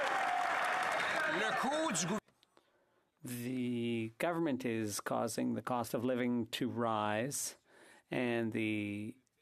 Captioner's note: some Applause